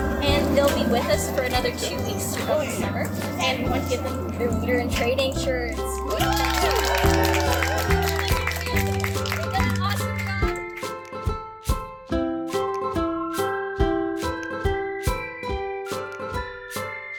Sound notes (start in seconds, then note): 5.9 cheering, applause; 12.9 music fades out